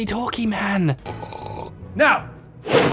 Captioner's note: teacher slurps coffee loudly